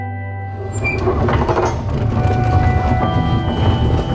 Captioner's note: door clanging